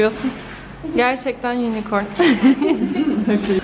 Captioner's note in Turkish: gülüşmeler